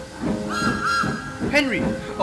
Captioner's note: Thomas whistles